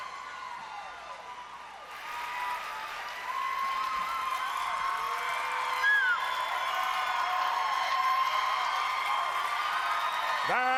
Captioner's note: cheers and applause